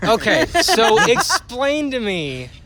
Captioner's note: laughter